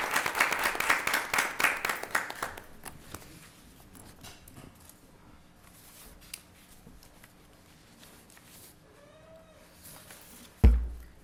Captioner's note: applause